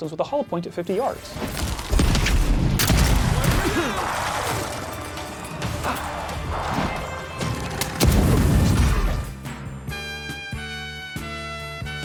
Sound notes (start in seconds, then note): 2.7 blammo; 4.3 sounds of combat